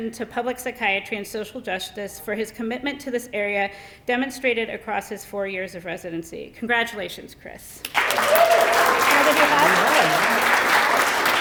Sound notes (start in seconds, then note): 7.8 applause